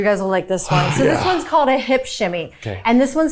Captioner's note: sighing